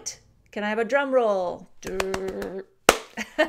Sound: laughs

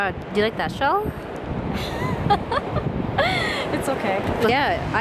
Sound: laughs uncomfortably

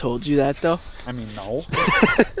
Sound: laughs

